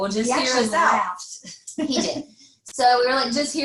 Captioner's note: laughs